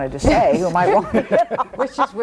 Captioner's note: everyone laughs